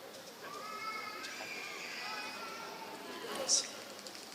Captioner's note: applause